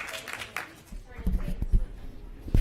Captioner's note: applause